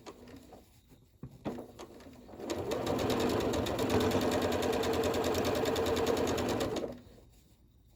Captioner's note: sewing